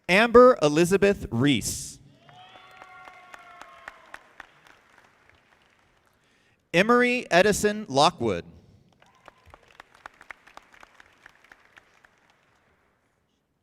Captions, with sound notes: Amber Elizabeth Reese. (audience applauding) Emery Edison Lockwood. (audience clapping)